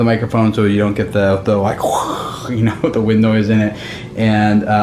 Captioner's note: makes wind noise